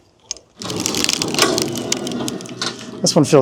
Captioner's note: machinery humming